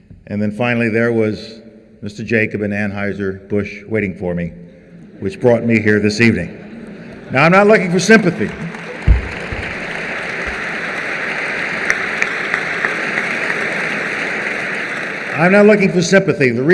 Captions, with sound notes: and then finally there was Mr. Jacob at Anheuser-Busch waiting for me, which brought me here this evening. Now I'm not looking for sympathy. [applause] I'm not looking for sympathy.